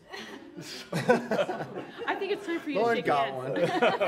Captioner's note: laughing